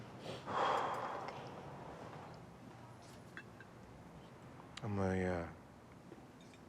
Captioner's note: sighs